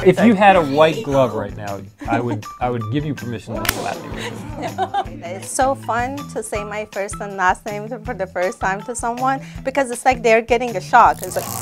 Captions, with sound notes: If you had a white glove I would give you permission to slap me. [Chuckles] No It's so fun to say my first and last name for the first time to someone. because it's like they're like getting a shock.